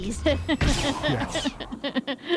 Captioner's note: laughs